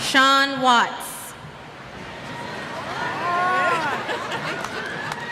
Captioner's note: cheers